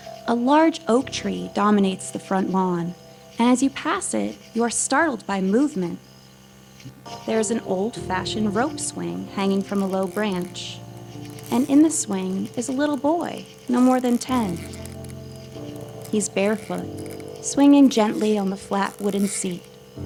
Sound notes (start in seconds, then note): 8.6 rope creaking